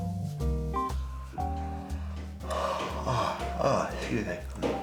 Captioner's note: yawns